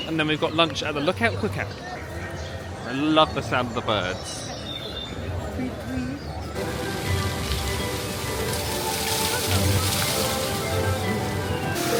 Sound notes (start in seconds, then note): 4.9 birds chirping; 6.5 bright music